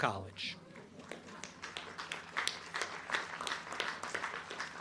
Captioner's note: crowd clapping